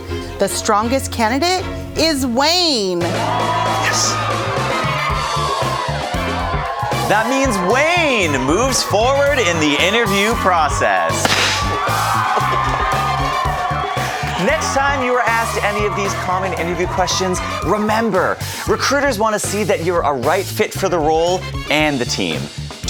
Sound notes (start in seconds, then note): 2.8 cheering; 11.2 loud bang